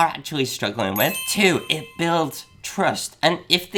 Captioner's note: magical jangling